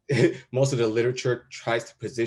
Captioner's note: chuckles